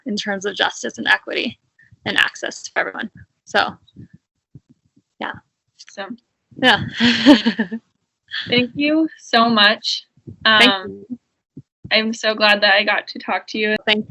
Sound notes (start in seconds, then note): 6.6 chuckling